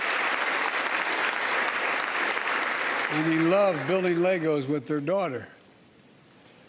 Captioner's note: applause